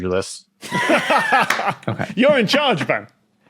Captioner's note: laugh